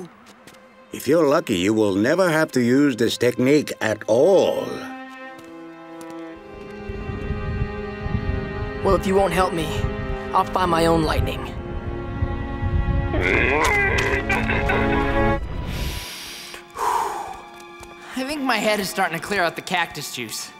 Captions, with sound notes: If you're lucky, you will never have to use this technique at all. Well, if you won't help me, I'll find my own lightning. [groaning] I think my head is starting to clear out the cactus juice.